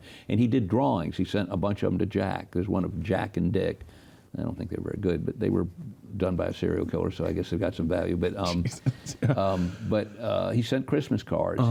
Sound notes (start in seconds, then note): 8.4 laughs